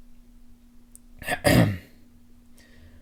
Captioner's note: ahem